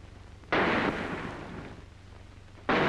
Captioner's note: gunshot